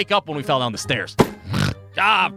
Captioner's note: snores